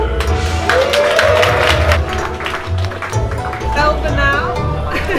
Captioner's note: crowd applauding